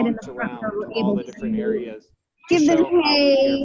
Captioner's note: zookeeper and chattering